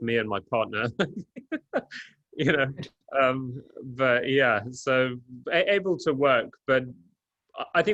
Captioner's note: laughs